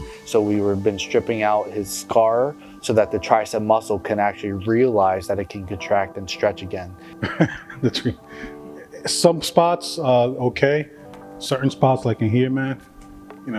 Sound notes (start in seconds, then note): 7.2 laughing